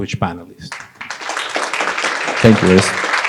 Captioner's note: applause